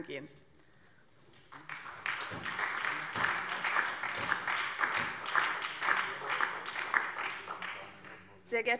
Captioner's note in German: Beifall SPD und vereinzelt DIE LINKE